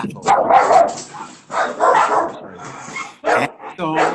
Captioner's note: dog barks